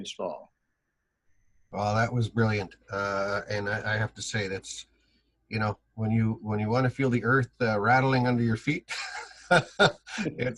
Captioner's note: laughs